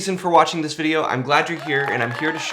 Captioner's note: audience applauding